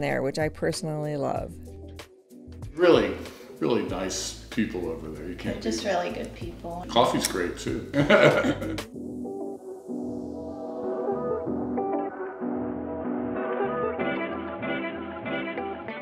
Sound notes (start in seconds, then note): 7.9 chuckles; 9.1 upbeat music